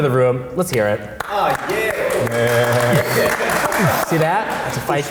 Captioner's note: group applauding